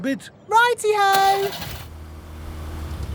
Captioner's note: car engine starts